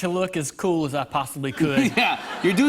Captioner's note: laughter